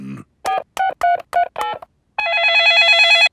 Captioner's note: dialing; cell phone ringing